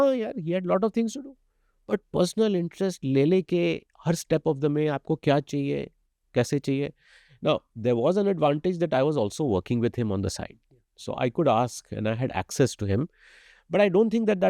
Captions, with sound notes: Yeah he had lots of things to do. But he took personal interest and every step of the way he kept asking us what we needed, how we wanted it (SPEAKS HINDI). Now there was an advantage that I was also working with him on the site. So I could ask and I had access to him but I don't think that